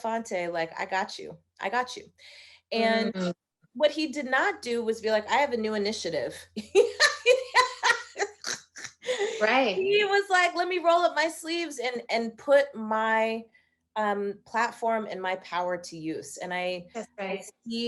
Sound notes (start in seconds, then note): 6.9 laughing